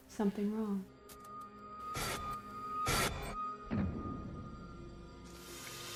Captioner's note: electronic buzzing